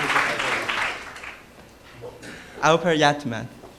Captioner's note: applause